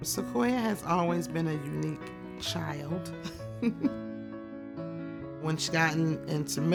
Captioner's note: laughs